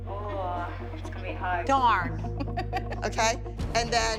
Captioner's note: laughs